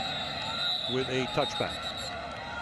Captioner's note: whistle blows